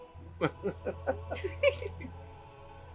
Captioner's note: laughter